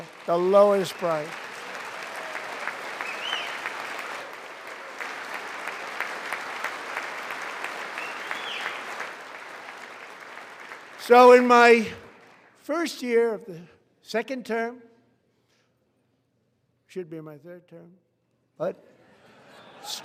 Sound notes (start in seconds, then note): 6.1 applause